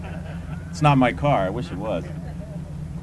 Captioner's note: laughter